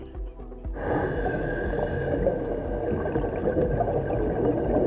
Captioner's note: breathing